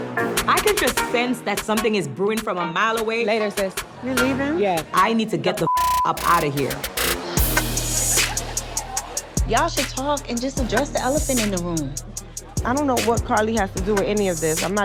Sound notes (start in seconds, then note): 0.0 dramatic music; 5.6 beep